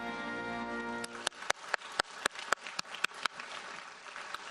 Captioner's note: audience applauds